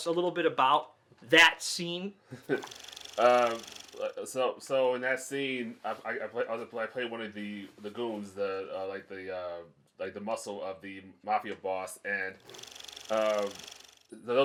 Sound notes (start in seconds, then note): 2.5 reel flickering; 12.4 reel flickering